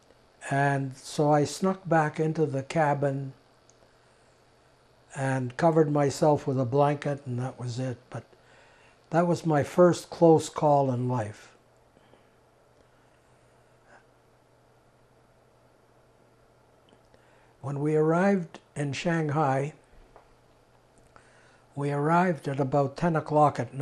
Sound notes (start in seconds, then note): 11.2 pauses 6 seconds